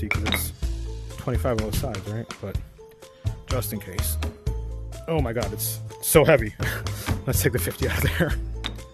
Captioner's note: laughs